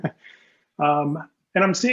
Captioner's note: laughs